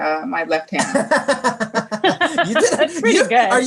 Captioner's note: laughs